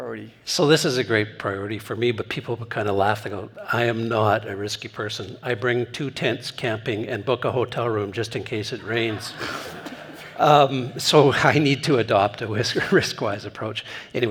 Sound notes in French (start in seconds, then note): 8.8 rires